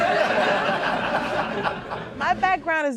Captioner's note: crowd laughs